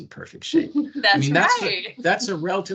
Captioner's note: laughing